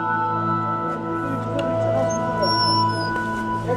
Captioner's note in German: Entfernte Stimmen